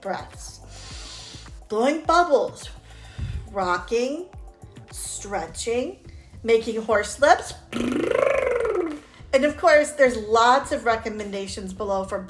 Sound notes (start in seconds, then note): 0.6 exhaling; 7.6 lips vibrating